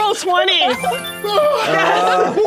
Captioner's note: more triumphant beeping sounds; triumphant beeping sounds; yelling